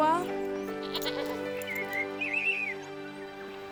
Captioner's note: sheep bleating; pleasant music